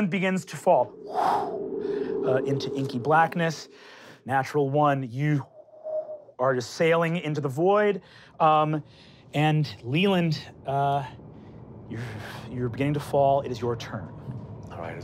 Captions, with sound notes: - Leiland begins to fall. (wind blowing) Into inky blackness. Natural one, you (wind whistling) are sailing into the void. And Leiland, you're beginning to fall, it is your turn.